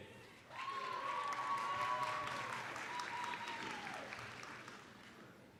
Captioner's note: applause, cheering